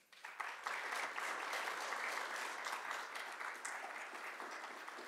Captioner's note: audience clapping